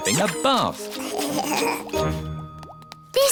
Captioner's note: giggling